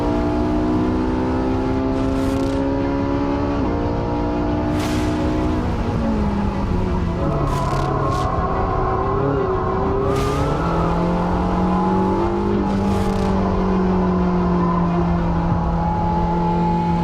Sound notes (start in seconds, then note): none